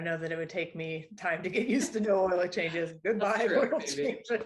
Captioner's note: laughter